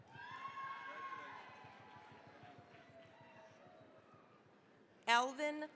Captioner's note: cheering, applause